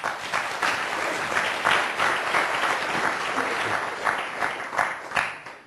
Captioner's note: applause